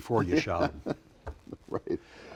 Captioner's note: chuckles